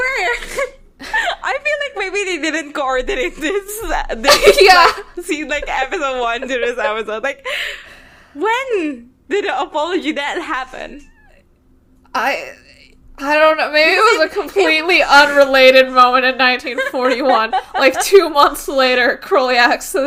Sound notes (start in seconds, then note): 1.0 laughing; 6.8 both laughing; 16.6 both laughing